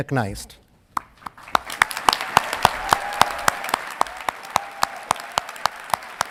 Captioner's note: audience clapping and cheering